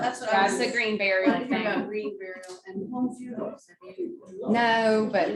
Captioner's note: indistinct conversation